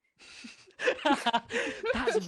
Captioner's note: laughter